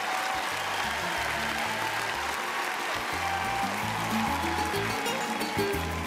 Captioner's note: cheering